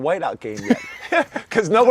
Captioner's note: laughs